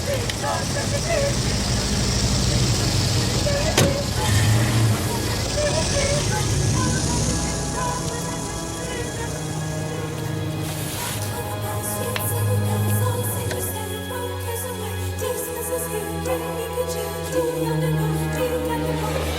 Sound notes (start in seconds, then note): 3.6 engine revving; 3.7 car door closes